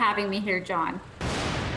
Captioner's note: sounds of thunder